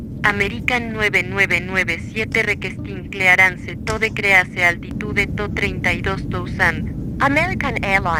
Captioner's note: speaking Spanish